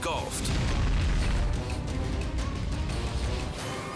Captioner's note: fire roaring